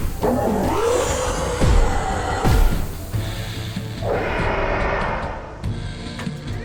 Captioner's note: gunfire; loud screeches and roars